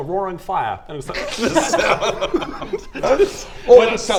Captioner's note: incredulous laughter